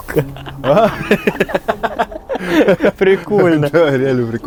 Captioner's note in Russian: смех